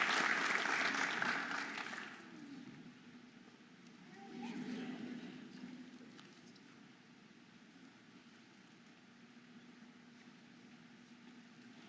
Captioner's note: audience applauding and cheering